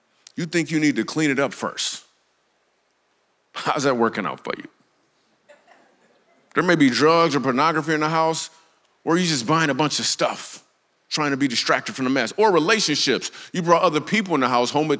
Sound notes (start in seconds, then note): 5.4 congregation laughs